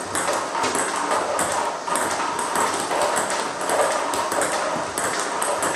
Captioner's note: ball ping pong hitting continues